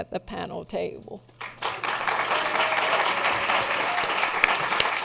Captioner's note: applause